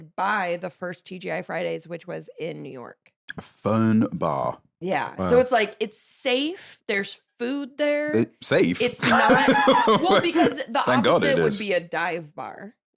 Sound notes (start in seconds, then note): 8.8 laughs